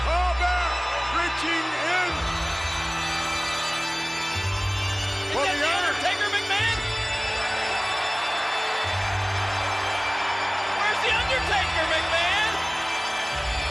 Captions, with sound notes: Paul Bearer reaching in. Is that the Undertaker, McMahon? (crowd cheers) Where's the Undertaker, McMahon?